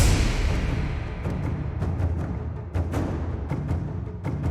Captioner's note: thump